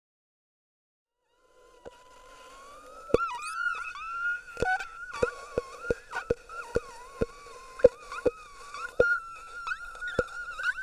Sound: sound of scream

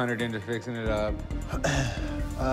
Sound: clears throat

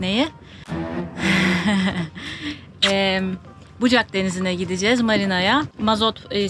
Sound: laughter

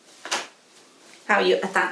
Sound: fastener snaps

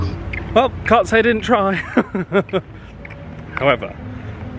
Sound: chuckles

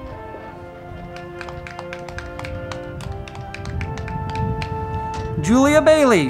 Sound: band music; crowd clapping

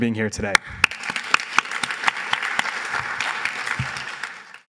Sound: applause

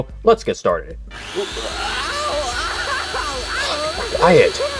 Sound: machine whirring; crying

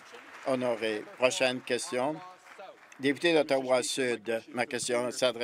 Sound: applause

